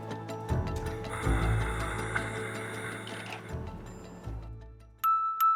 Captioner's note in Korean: 코오오zZZ